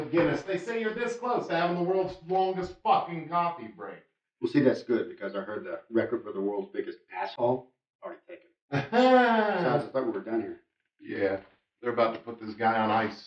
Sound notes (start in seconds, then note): 8.7 Morris laughs